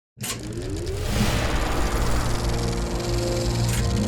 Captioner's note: film reel spooling up